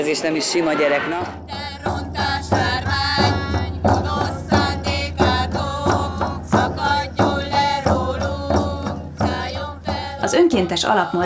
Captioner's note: chant